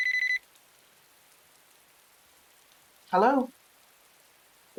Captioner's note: phone ring